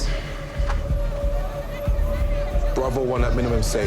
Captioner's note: Pep sighing; intense music